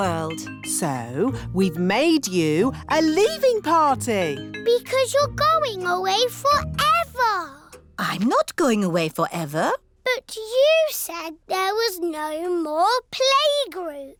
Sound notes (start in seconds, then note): none